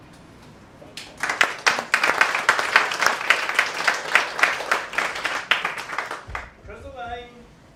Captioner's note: applause